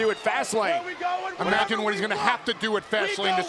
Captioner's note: wrestlers call out randomly